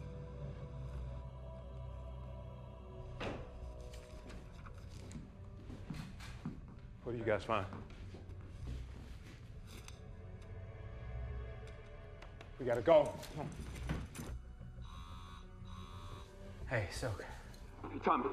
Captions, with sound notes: What did you guys find? We gotta go. Come on. [phone vibrates] Hey, Silk.